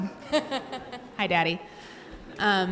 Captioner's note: audience laugh